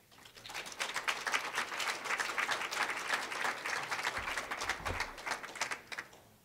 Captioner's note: applause